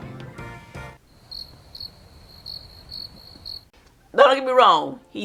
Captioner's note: crickets